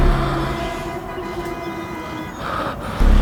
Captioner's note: sirens wailing; traffic horns honking